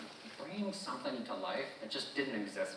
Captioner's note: none